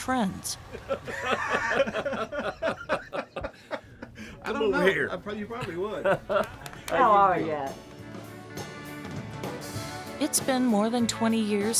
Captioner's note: laughter